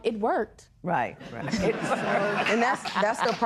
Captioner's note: laughing